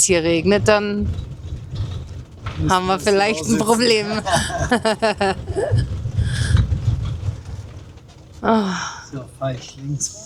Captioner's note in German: gelächter